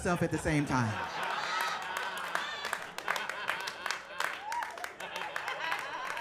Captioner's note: audience laughing and applauding